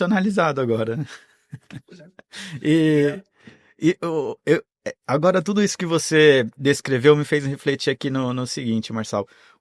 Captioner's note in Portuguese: risadas